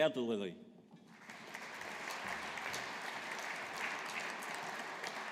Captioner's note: audience applauding